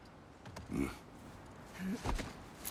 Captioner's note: grunt